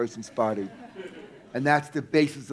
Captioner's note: audience laughing